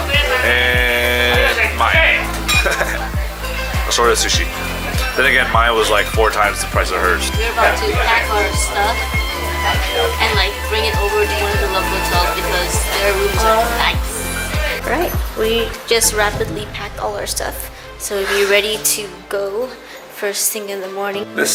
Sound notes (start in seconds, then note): 2.4 laughs